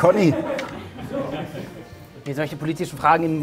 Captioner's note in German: Lachen